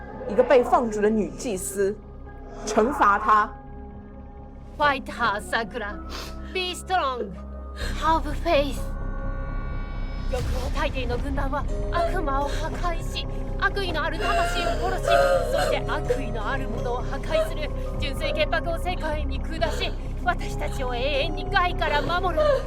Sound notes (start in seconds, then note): 1.5 Mandarin language; 3.5 Mandarin language; 11.4 Japanese language; 13.0 Japanese language; 14.8 Japanese language; 17.3 Japanese language; 19.6 Japanese language; 22.0 Japanese language